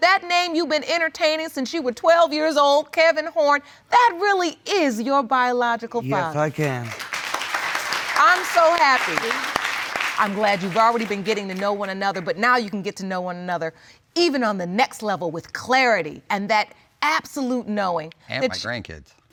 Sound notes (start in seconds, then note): 6.1 audience applauding